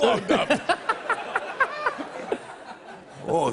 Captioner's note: laughs